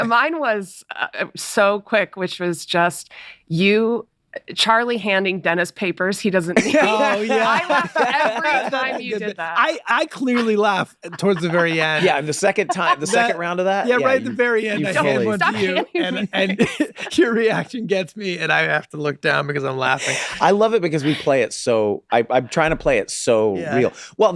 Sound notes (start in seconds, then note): 7.3 all laughing